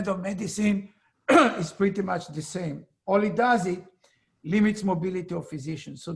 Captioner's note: cough